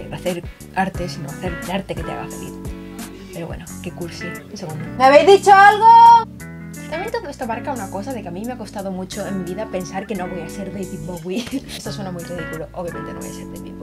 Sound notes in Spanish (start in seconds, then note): 4.8 gritando a mi hermano